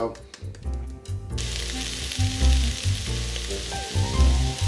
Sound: sizzling; upbeat music plays

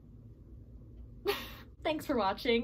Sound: chuckles

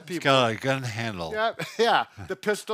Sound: chuckles

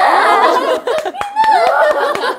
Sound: applause

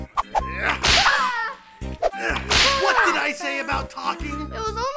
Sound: crying in pain; whip cracking

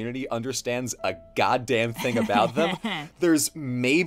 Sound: laughs

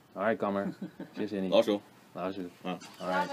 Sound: mandarin

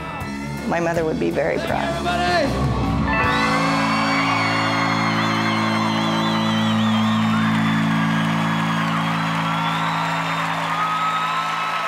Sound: crowd cheers

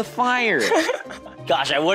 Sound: laughing

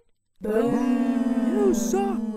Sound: booing

